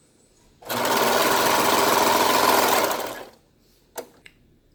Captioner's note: sews Piece Together on Sewing Machine